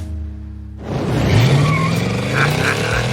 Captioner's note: engine revs, tires squeal; laughs